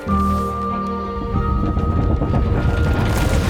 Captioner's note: rumbling